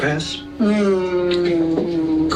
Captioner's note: groaning